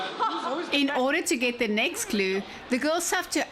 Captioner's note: narrating